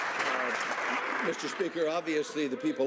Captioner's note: some Applause